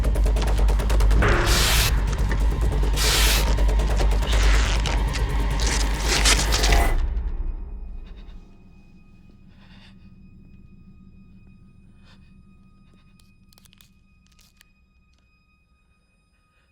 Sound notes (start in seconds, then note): 7.6 breath shaking; 14.2 tape ripping